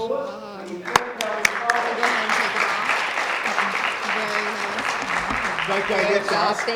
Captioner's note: applause